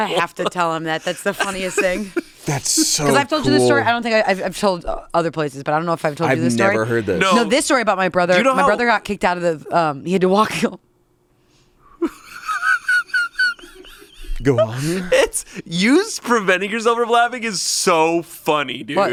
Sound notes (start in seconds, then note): 12.0 laughs